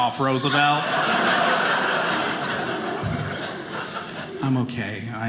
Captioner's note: audience laughing